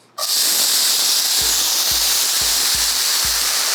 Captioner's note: sizzling food